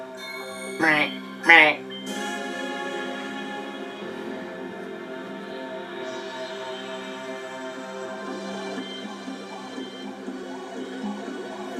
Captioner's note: strange space noises